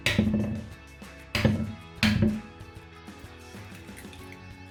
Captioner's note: crushing eggs